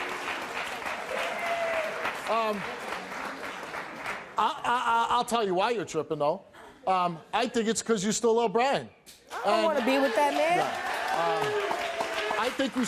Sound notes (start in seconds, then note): 9.4 audience cheering